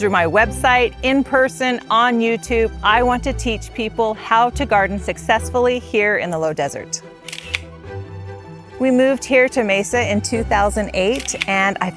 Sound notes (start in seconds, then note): 7.2 camera shutter clicks